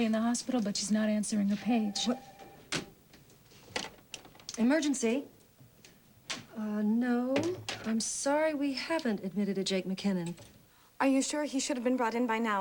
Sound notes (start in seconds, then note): 1.5 phone rings